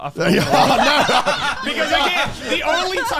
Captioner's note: laughs